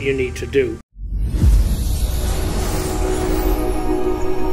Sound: logo whooshing

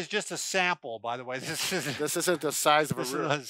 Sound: chuckles

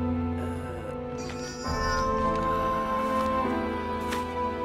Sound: groans; sad orchestral music

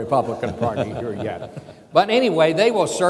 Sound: chuckling

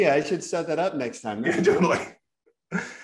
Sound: laughter

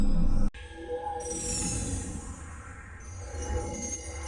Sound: digitized dramatic sounds

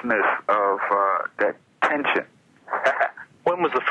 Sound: laughs

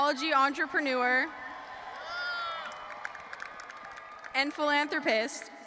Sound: audience applauding and cheering

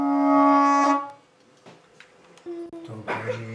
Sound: click! music stops; squeals

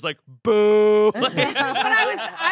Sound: everyone laughs

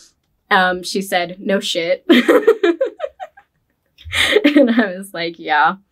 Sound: laughs

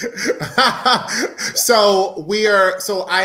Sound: laughing

